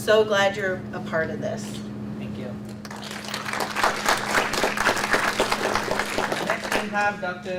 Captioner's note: audience applauds